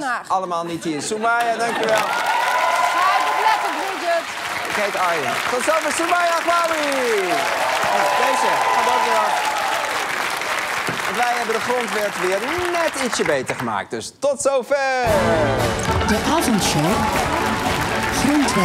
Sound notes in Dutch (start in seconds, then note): 3.9 applaus en gejuich; 10.0 applaus